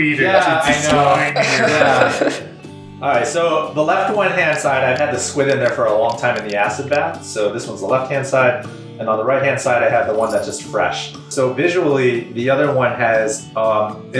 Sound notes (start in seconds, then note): 0.2 everyone laughs